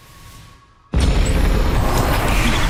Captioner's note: boom